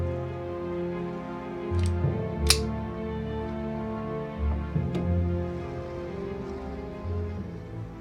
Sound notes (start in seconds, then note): 2.4 gun cocking